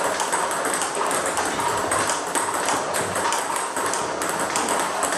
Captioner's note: ball ping pong hitting continues